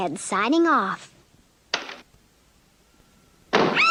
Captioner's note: door Opens & then Closes; Sweet Polly Screams